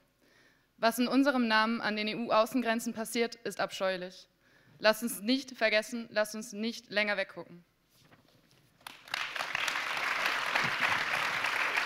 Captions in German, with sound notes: Was in unserem Namen an den EU-Außen- grenzen passiert, ist abscheulich. Lasst uns nicht vergessen. Lasst uns nicht länger weggucken. [Applaus]